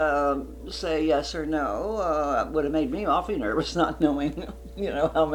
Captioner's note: laughs